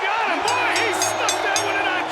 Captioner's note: bell rings